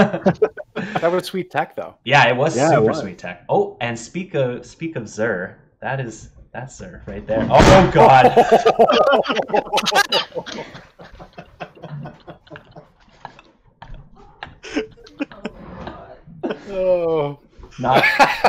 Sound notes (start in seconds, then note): 0.0 laughs; 9.1 crashing; 12.6 laughs